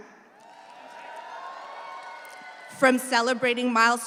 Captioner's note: audience cheers